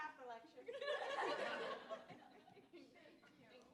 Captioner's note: laughter